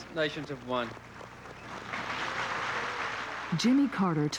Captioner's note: applause